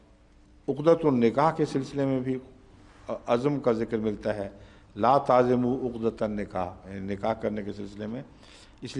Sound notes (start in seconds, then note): 5.9 Arabic